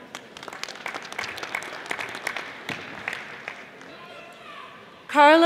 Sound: audience applauding

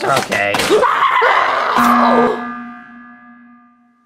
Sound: Iggy screams

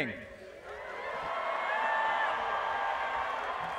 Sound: applause

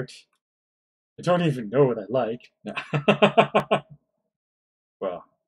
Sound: laughs

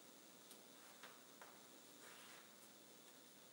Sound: cloth rustling

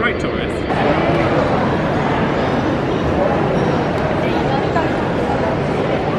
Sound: commuters chatting indistinctly

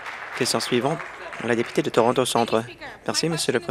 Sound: applause

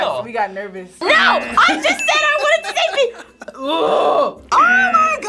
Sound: growls

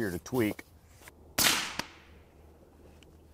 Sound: rifle fires

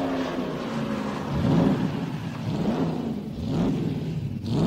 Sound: engine revving

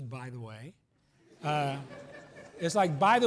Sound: laughs

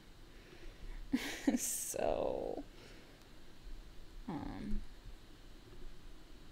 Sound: laughing

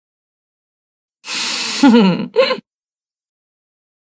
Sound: laughing

